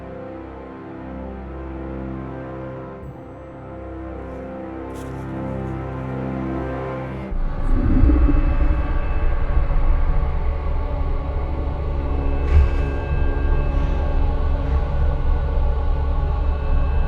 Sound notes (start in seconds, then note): 8.3 Bigfoot growls